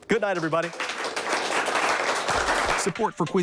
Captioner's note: audience applauds; voiceover